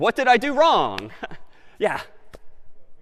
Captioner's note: laughs